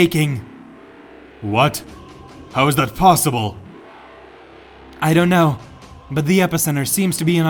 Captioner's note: blast